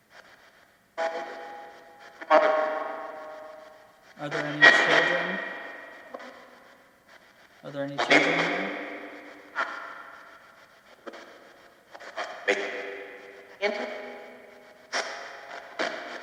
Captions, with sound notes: (ghostly male voice echoes) Are there any children... (static crackles loudly) Are there any children in there? (static crackles) (ghostly voices warbling)